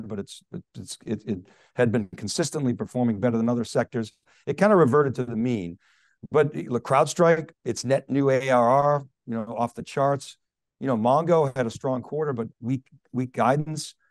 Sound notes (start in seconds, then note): none